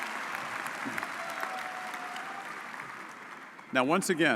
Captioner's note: audience applauds